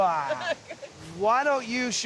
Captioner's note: laughing